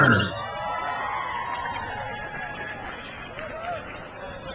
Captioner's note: crowd cheers